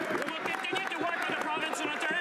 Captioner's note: some Applause